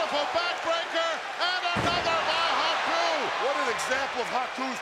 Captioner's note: audience cheering